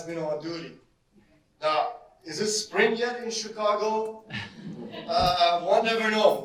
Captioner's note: audience laughter